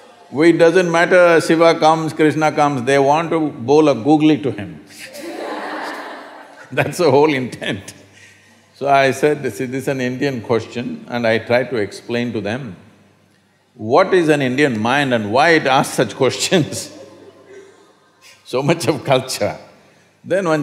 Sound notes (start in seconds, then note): 5.0 laughter; 16.4 laughs